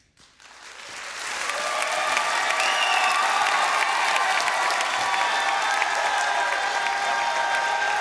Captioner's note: applause